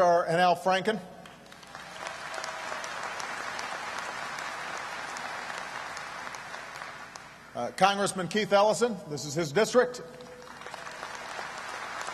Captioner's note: applause